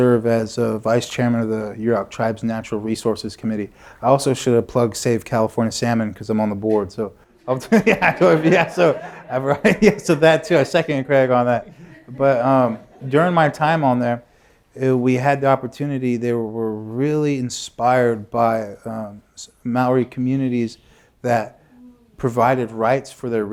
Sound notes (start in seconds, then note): 10.6 laughter